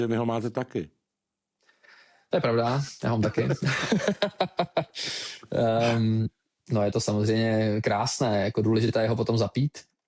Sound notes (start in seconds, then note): 5.5 laughter